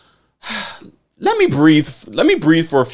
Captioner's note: sighing